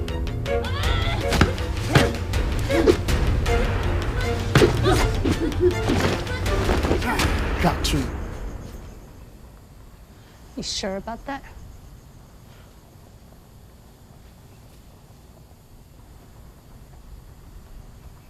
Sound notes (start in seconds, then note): 3.4 both grunting